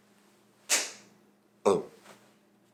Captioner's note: loud slap